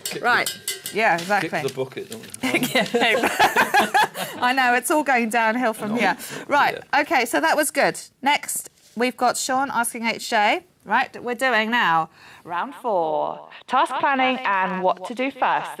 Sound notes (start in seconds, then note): 2.4 laughing